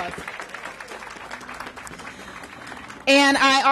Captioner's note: applause